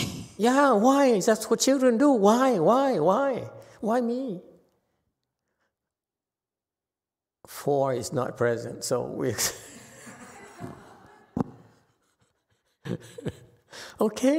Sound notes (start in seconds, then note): 9.4 laughs